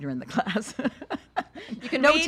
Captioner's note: laughs